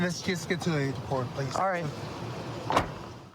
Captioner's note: car door closes